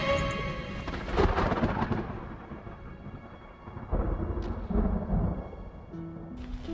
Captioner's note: thunder